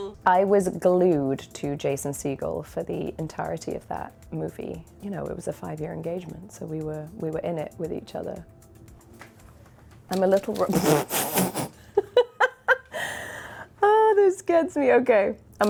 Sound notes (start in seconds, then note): 10.4 Emily spitting; 12.2 Emily laughing